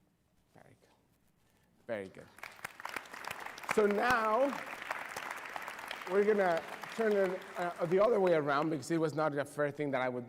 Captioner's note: applause